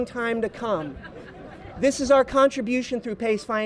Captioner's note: laughter